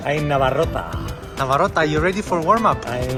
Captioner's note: speaks Russian